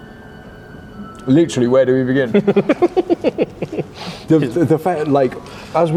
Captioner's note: laughs